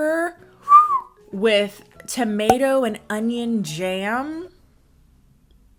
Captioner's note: whistles